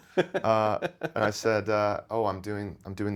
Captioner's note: laughing